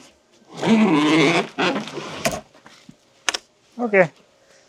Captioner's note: wood creaking